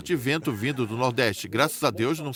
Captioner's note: laughter